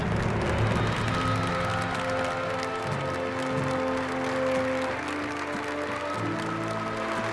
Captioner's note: applause